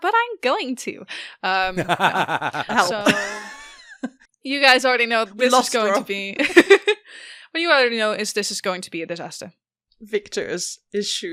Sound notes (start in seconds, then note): 1.6 Annie laughs; 1.7 laughs